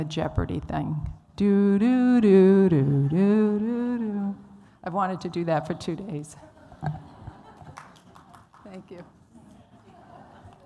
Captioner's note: humming the theme from Jeopardy